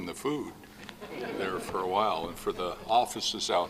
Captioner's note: laughing